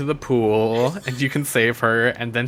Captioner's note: gasps